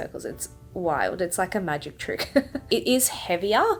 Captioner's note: chuckles